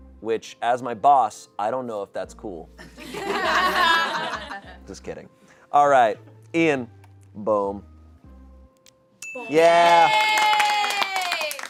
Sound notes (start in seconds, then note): 3.0 audience laughing; 9.2 bell dings; 9.6 audience cheering